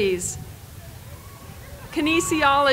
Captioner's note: applause